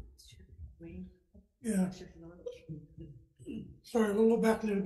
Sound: quiet talk

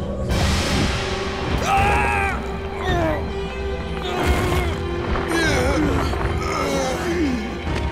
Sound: groaning

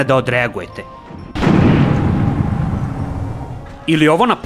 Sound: boom!

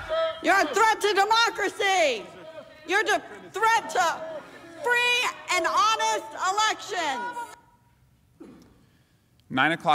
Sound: chanting

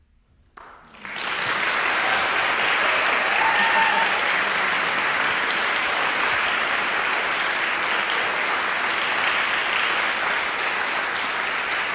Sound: applause

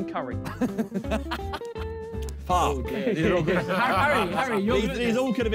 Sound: laughs happily

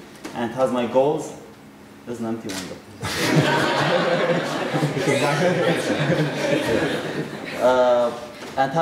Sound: audience laughter

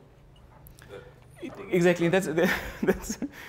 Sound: laugh

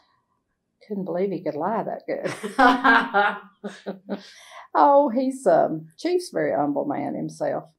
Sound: laughter

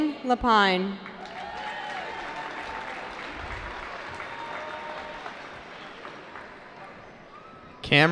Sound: cheering

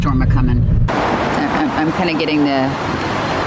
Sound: water splashing

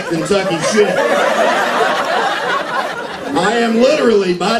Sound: laughter

